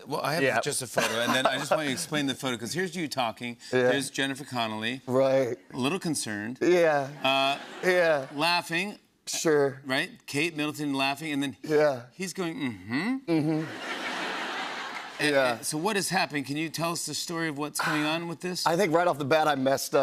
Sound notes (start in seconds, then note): 7.2 laughter; 13.4 laughter